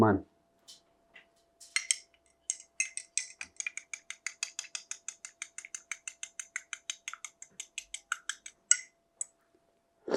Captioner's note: mixing sounds